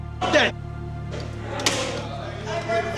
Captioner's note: slams phone